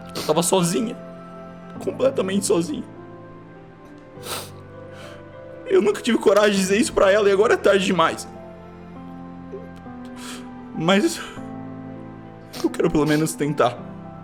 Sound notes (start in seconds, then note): 4.2 sniffs